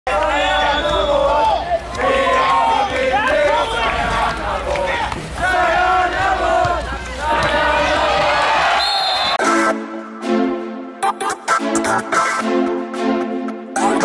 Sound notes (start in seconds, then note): 0.9 crowd singing; 8.7 whistle blows; 11.0 energetic music